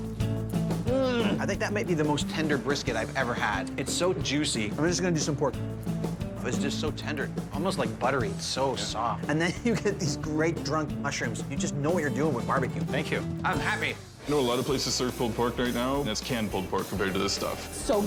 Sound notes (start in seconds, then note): 0.8 groans